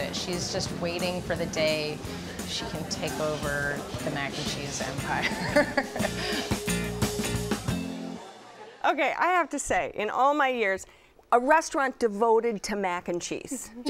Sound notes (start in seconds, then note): 5.2 laughs